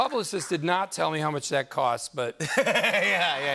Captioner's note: laughter